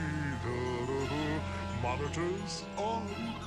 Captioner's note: zurg hums